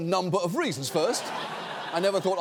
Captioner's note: studio audience laughing